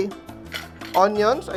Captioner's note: clang; clink